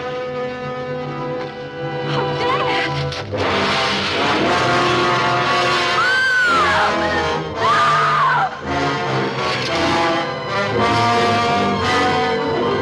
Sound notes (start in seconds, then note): 3.0 suspenseful music; 5.8 screaming loudly